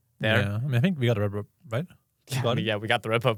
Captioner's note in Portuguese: risos